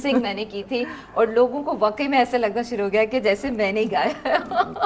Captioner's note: chuckles